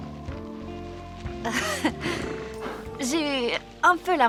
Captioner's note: sighing